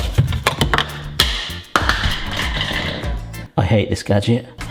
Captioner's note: base rattling; base crashes